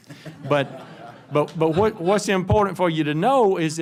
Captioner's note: laughter